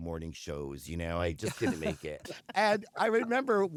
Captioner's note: laughter